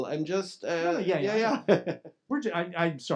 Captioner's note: both laughing